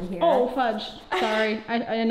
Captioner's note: chuckles